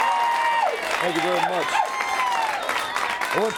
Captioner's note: crowd cheering